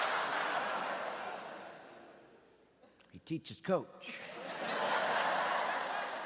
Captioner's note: audience laughing